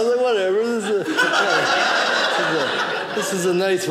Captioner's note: audience laughing